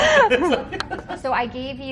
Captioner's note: laughter